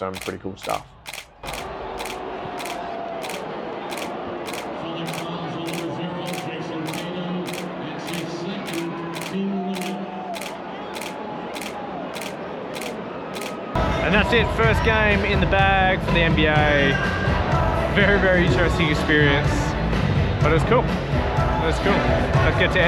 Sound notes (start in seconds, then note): 0.6 crowd cheering; 4.4 camera clicking